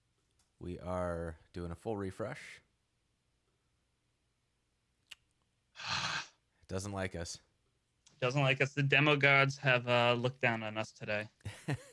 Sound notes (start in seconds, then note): 5.7 sighing